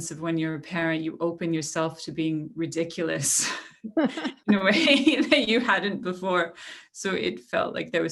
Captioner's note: laughter